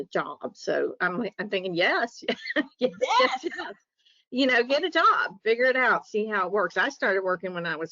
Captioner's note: chuckles